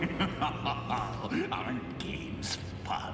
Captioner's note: discord laughs evilly